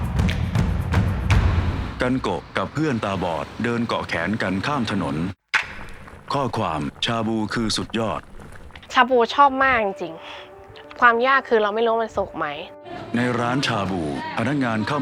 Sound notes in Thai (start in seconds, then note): 2.1 เสียงรถ; 5.5 เสียงน้ำเดือด